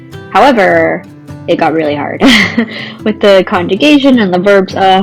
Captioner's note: laughs